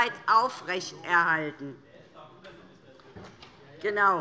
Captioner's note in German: Zurufe BÜNDNIS 90/DIE GRÜNEN und Freie Demokraten